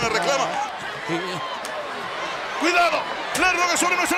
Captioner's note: applause